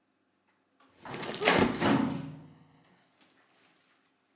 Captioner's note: Ezra thuds